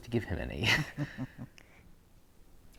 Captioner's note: Harry and Aquila laugh